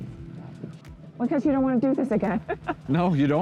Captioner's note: chuckles